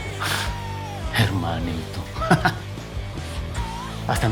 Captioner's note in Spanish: Ríe